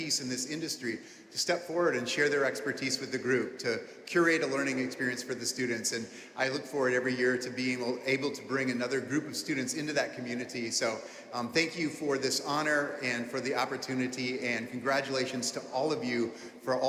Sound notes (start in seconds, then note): none